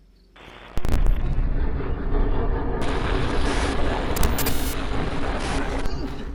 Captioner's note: static hisses; dark brooding music